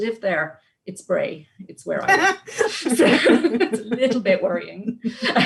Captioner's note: laughs